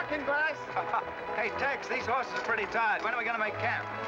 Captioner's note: chuckles